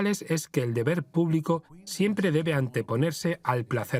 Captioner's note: voiceover